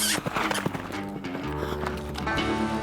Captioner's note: smooch sound